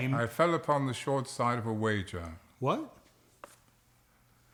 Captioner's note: none